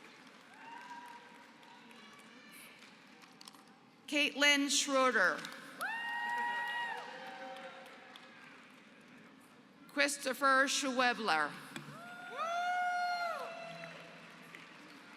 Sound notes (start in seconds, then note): 0.0 applause; 5.7 applause; 12.4 applause